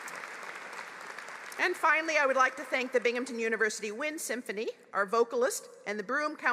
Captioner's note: applause